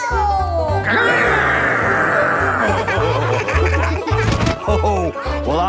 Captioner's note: laughing